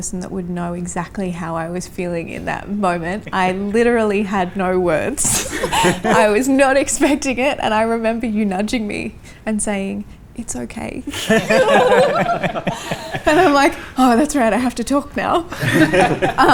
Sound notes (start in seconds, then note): 5.4 laughs; 11.1 all laugh